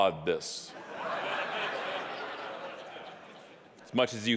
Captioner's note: audience laughing